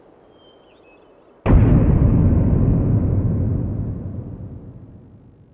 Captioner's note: door slams